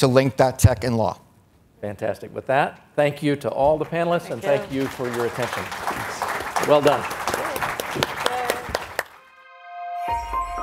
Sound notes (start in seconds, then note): 6.0 audience applauds; 9.2 gentle music